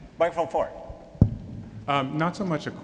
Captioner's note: voiceover